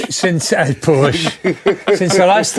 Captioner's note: laughing